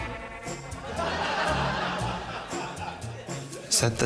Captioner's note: laughter